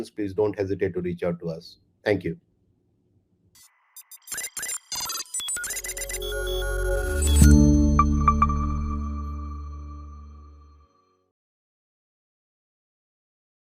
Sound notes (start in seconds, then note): 3.9 gentle digital beeping